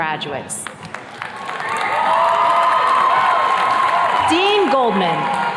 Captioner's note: attendees cheers and claps